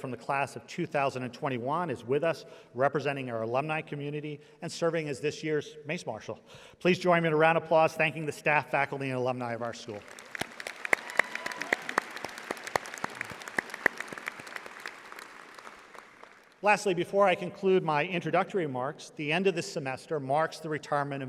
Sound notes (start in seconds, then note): 10.0 audience applauding